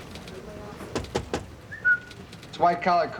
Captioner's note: knocking; whistling